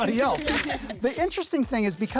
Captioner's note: laughter